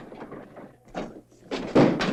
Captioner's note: thump